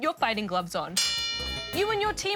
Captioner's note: bell dings